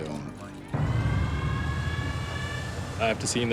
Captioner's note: sirens blaring